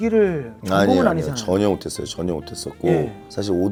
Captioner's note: haha